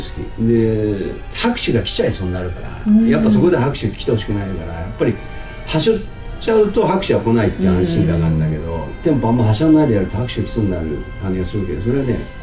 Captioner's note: laughs